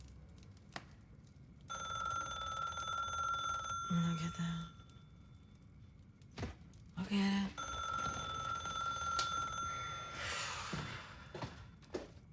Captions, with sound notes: (phone ringing) - You wanna get that? I'll get it. (Brandi sighs)